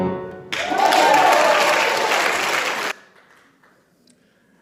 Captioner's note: audience applauding